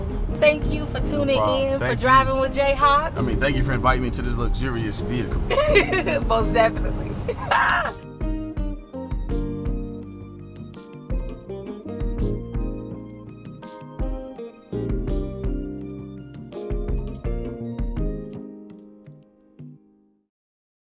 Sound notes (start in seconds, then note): 7.1 laughs